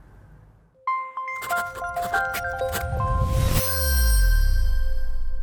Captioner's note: sound effects playing